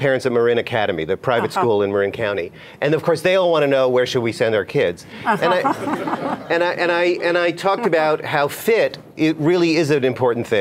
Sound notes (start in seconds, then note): 5.3 laughter